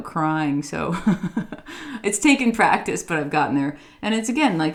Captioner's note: laughs